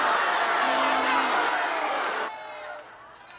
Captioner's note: loud booing